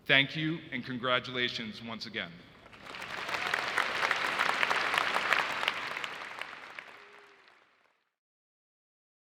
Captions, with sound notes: Thank you, and congratulations once again. (audience applauding)